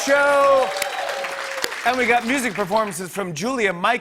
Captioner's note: cheers and applause